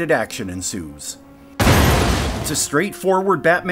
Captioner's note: crash! explosion!